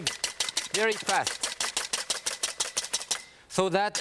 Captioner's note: whisk whipping